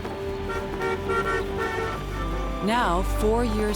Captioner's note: car horns honking